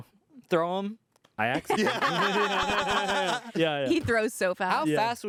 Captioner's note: everyone laughs